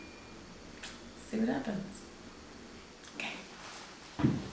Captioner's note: clicks mouth